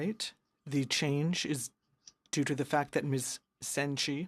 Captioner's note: speaking in french